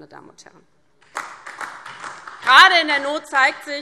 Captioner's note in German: Beifall DIE LINKE und vereinzelt SPD